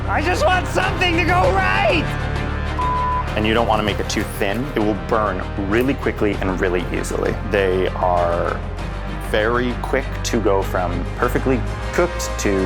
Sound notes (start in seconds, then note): 2.8 beep